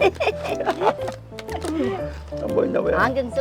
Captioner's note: both laughing